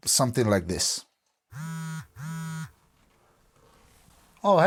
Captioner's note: phone vibrating